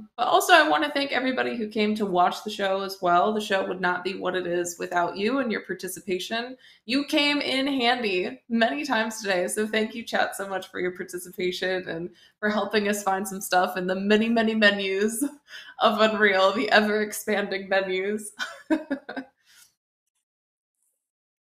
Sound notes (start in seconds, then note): 18.5 laughs